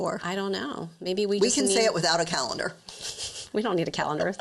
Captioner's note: chuckles